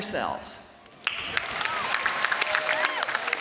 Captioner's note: applause